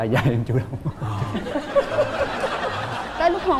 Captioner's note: laughing